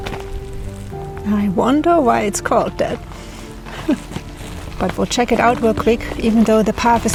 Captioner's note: laughs